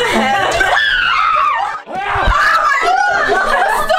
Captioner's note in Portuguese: Gritos